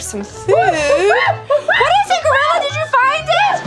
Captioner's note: exciting gorilla sounds